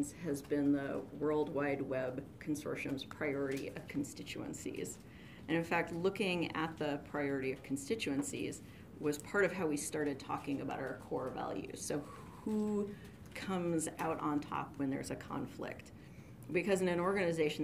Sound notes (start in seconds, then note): none